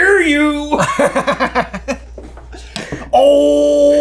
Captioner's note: laughing